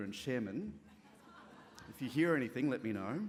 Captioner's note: laughter